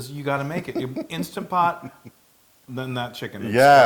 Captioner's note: laugh